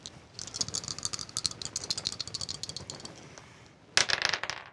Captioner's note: dice clattering